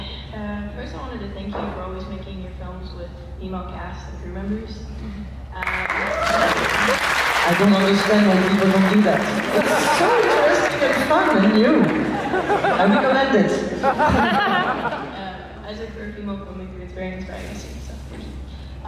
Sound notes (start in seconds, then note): 5.6 applause & vivas; 11.8 laughs